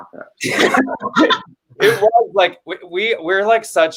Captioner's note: everyone laughs